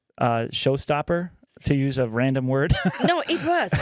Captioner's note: laughing